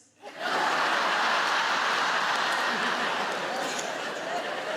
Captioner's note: audience laughing